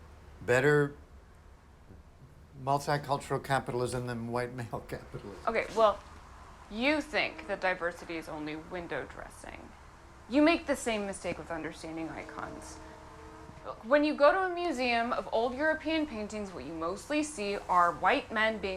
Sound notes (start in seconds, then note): none